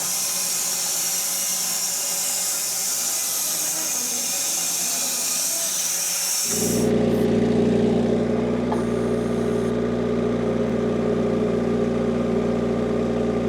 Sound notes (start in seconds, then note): 6.8 vehicle rumbling